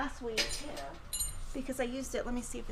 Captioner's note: tools clatter